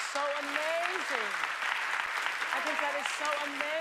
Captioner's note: applause